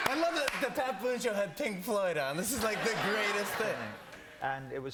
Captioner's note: cheers and applause